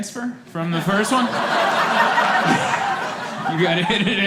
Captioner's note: laughter